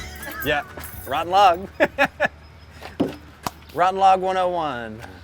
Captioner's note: laughs